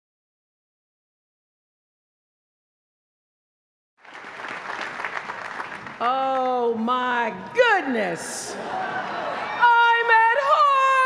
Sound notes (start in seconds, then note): 4.0 applause